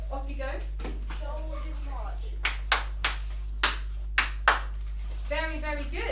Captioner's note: child claps